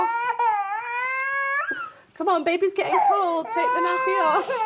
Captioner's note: crying